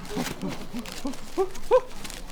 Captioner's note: excited unwrapping noises